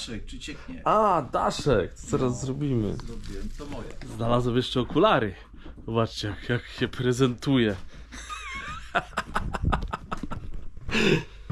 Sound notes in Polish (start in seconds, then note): 8.1 śmiech